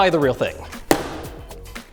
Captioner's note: bang